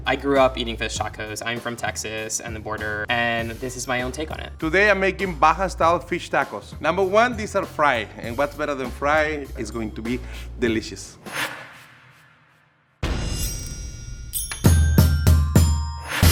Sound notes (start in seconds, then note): 11.1 screen whooshes; 13.2 words ding; 13.3 pointer whips and dings